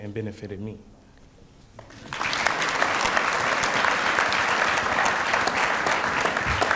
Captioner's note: applause